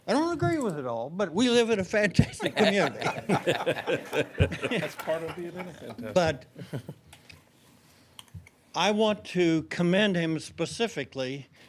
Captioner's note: laughter